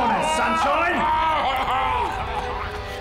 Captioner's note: Alfie screams